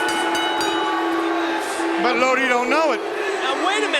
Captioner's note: bell ringing